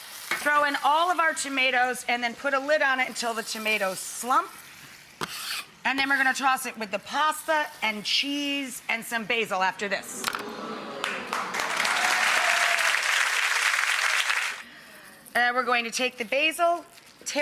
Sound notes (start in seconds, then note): 10.7 audience applauds